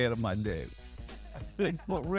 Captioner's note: laughs